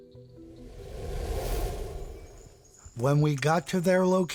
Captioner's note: air whooshing